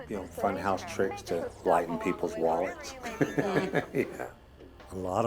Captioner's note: laughs